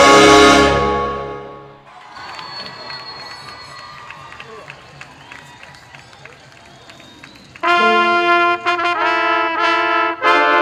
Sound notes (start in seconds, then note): 1.8 applause; 7.5 processional music playing